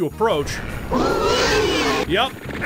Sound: Spider Mastermind noise

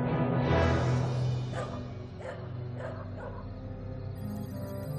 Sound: distant dogs barking

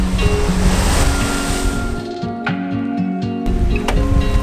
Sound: waves crashing

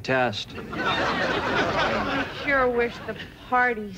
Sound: audience laughter

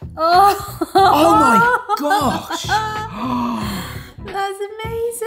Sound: laughing; gasps

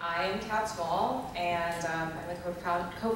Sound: voiceover

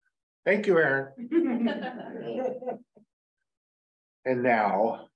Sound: laughter

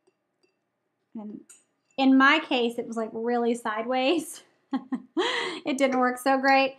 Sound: laughs

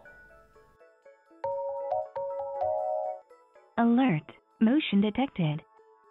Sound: phone ringing

